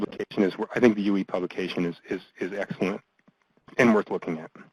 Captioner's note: voiceover